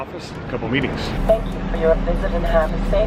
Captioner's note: computerized Voice